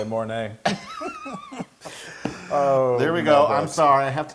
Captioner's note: laugh